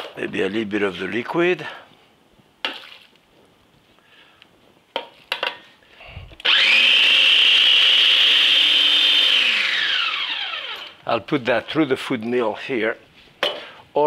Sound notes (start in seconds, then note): 2.6 liquid sloshing; 6.4 food processor whirring